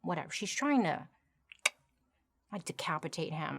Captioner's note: clicks tongue